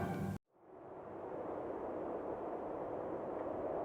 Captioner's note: wind blows